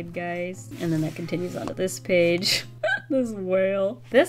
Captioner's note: laughs